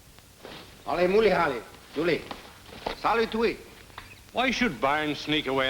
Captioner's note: Phantom speaks in foreign language